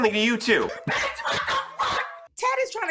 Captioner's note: laughing